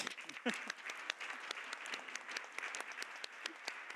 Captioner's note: Aplodit